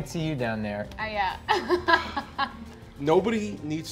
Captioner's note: laughing